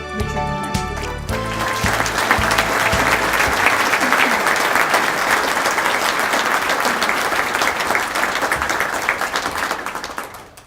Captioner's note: applause